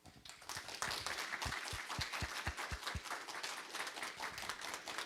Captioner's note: audience applauding